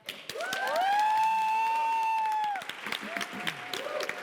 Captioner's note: cheers, applause